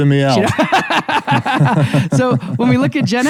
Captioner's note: laughs